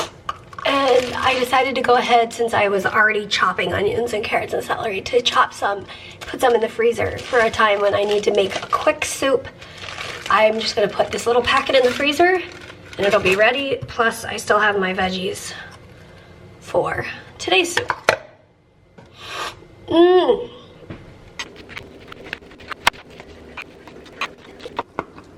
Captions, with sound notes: and I decided to go ahead since I was already chopping onions and carrots and celery to chop some put some in the freezer for a time when I need to make a quick soup. I'm just gonna put this little packet in the freezer and it'll be ready, plus, I still have my veggies for today's soup. *sniffles* MMM! * rapid Knife scratching and slicing noises*